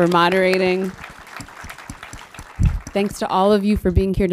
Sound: audience applauds

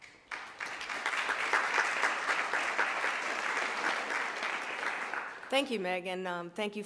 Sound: applause

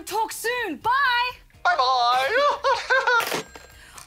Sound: laughs

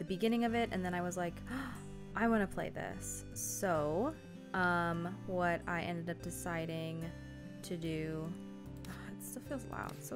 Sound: gasp

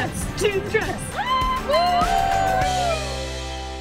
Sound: cheering

